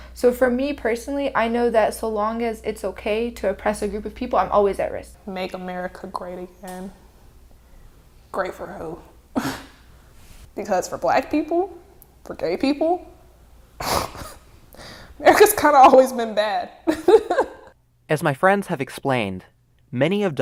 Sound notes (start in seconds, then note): 9.5 scoffs; 13.7 scoffs; 16.8 laughing